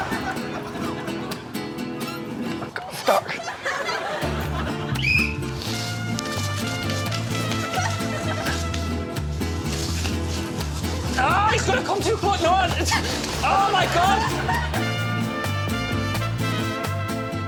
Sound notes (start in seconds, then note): 6.6 whistles